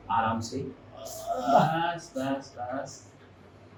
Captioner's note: moan with pain